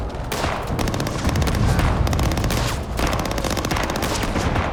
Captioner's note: gunfire